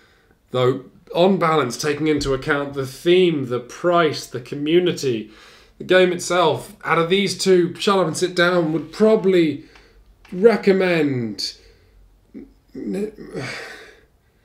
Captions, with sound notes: Though, on balance, taking into account the theme the price the community the game itself. Out of these two, Shut Up & Sit Down would probably recommend... [sigh]